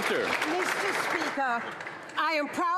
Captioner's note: some Applause